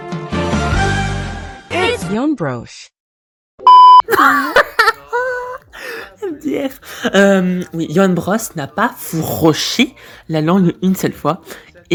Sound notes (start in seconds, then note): 4.0 moron's laughter